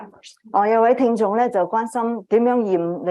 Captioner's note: speaking chinese